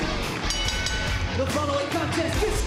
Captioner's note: bell ringing